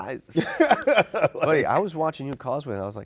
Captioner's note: laughing